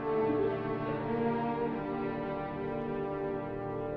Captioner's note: light sobbing